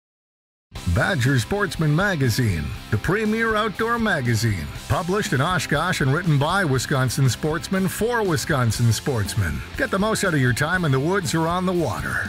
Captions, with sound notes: - [Voiceover] Badger Sportsman magazine. The premier outdoor magazine. Published in Oshkosh and written by Wisconsin sportsmen for Wisconsin sportsmen. Get the most out of your time in the woods or on the water.